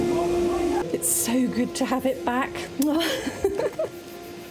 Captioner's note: loud hoovering noise; kiss; laughing